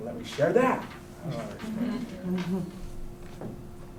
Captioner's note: chuckling